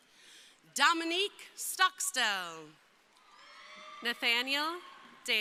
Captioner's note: crowd cheering